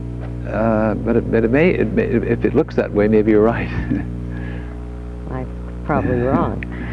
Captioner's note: laughs